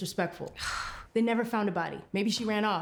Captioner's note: Claire scoffs